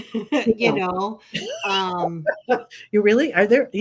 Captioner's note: laughing